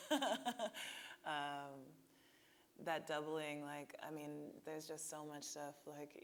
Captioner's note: laughing